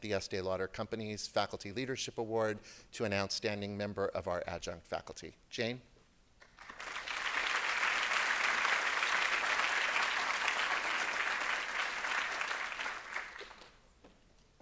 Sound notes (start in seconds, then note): 11.3 applause